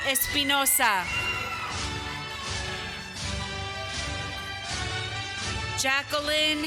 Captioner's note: applause